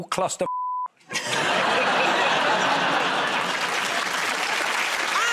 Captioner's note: laughter